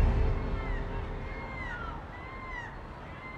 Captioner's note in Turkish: Martı sesleri